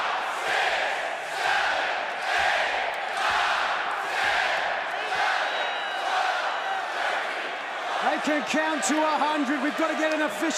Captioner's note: crowd cheering